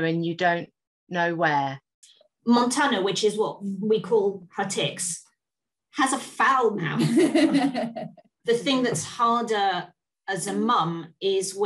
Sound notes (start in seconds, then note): 7.0 laughs